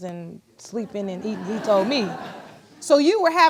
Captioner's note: audience laughs